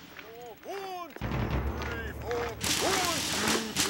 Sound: voiceover

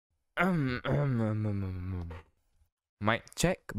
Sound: clearing Throat

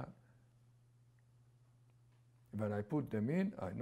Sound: pauses for 3 seconds

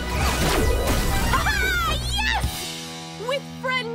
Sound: exclaims

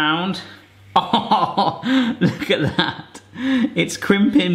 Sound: laughing

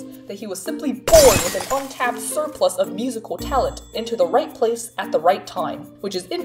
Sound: glass breaking

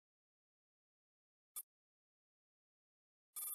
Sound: clink

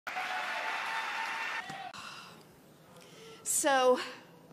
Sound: congregation lauds

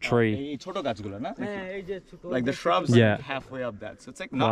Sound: speaking local language

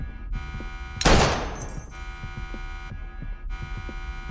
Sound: gunshot

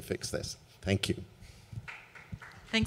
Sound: applause

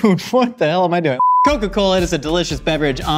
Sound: beep

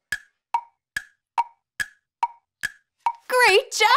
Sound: timer ticking

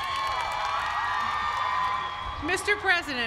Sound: cheering

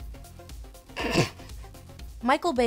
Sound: laughs

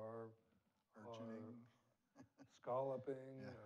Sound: laughs

